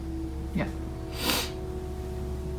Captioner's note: sniff